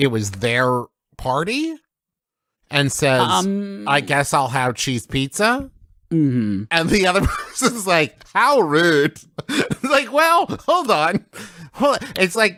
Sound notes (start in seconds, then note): 3.2 hmmm; 6.8 laughter; 9.2 laugh